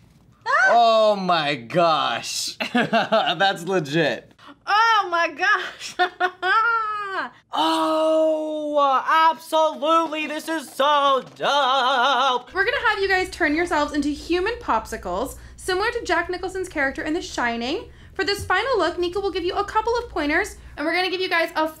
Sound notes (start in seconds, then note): 2.6 chuckles; 5.6 laughs